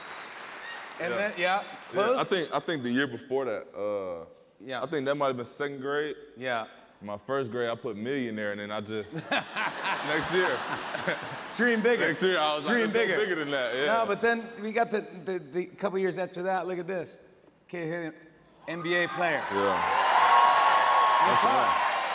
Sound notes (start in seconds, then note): 9.1 laughter; 18.7 cheers and applause